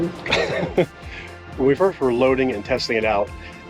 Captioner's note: laughs